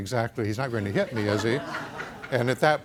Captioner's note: audience laughs